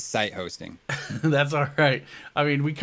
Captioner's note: laughs